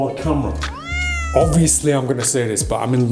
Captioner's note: cat meowing